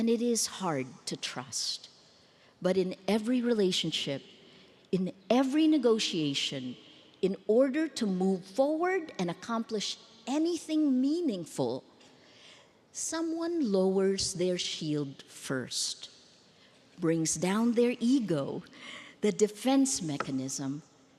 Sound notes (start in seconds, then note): none